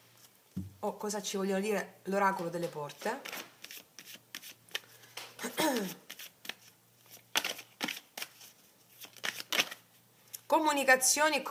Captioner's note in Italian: schiarire la voce